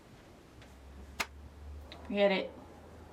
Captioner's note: light switch clicks